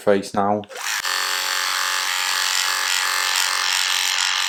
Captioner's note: razor buzzing